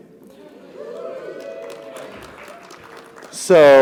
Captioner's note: audience applauding; audience cheering